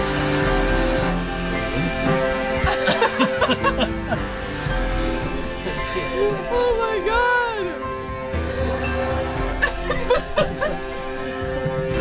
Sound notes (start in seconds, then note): 4.2 group chuckling; 9.7 laughs